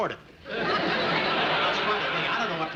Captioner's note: audience laughing